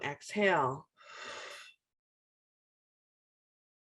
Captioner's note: exhales